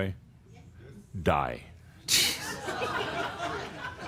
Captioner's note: laughter